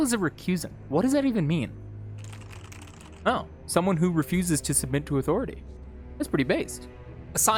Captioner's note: typing sounds